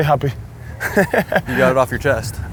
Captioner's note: laughs